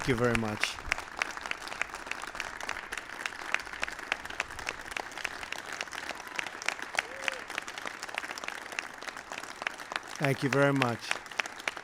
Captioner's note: applause